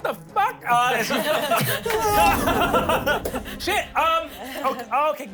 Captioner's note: everyone laughs